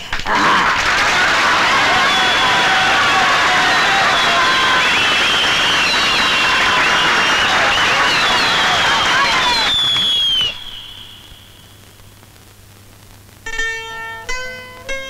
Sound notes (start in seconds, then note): 0.0 applauding; 9.7 tape recorder off